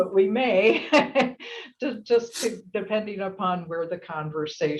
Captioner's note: laugh